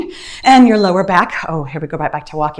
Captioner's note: timer beeps